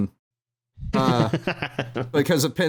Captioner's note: laughs knowingly